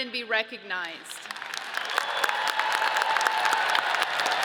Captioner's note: audience cheers